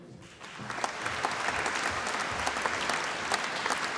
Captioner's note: applause